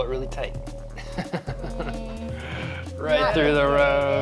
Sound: laughing

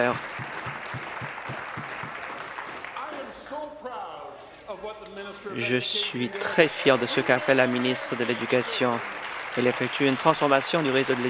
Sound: some Applause

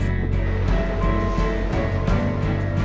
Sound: machinery beeping

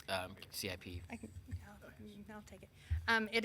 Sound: chattering

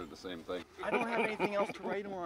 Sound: chuckles

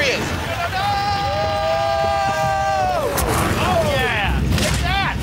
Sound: screaming

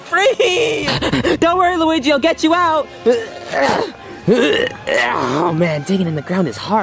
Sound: grunting

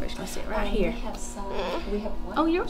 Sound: baby starts to cry

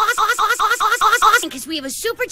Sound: implied sex sounds

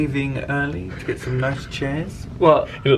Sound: snickering

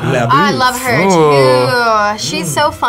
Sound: gasps

